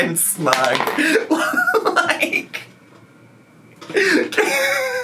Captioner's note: laughing